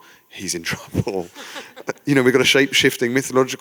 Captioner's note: chuckle